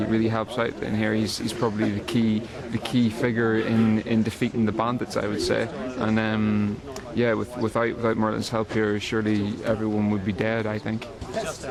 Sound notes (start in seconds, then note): none